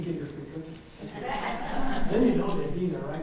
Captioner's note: audience chuckles